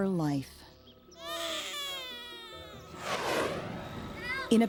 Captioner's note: baby cries